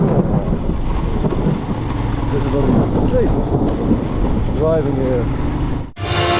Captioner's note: thunderstorm